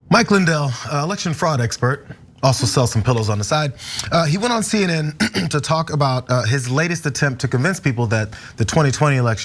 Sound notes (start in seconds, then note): 5.1 cough